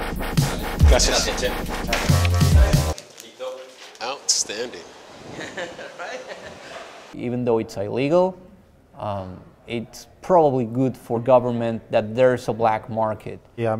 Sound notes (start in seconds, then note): 0.8 man, in Spanish; 5.2 laughter